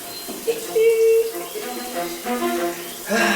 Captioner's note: Ender laughs